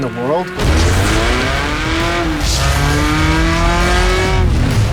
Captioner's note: engine roaring